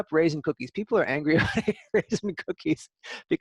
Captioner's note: laughter